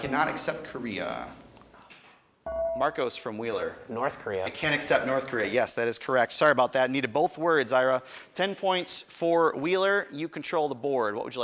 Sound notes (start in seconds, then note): 2.5 buzzer chimes